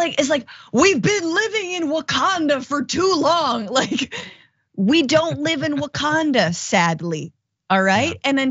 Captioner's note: laugh